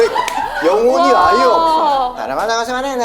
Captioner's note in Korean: 오열